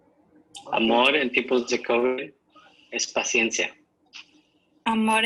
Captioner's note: speaking in Spanish language